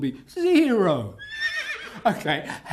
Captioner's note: neigh